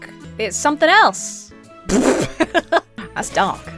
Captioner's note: splutters